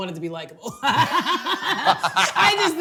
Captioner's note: both laughing